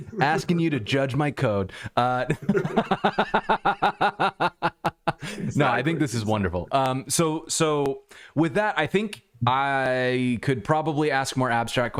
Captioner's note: laughter